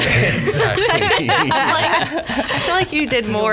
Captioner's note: laughs